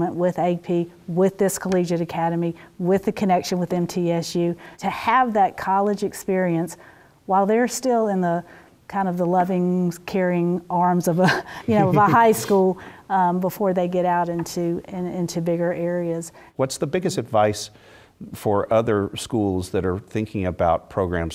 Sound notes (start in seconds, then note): 11.3 laugh